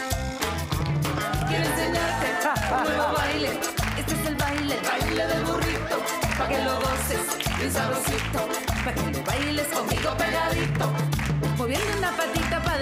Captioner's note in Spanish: Palmadas al compás